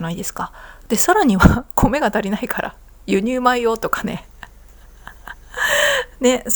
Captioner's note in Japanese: 笑い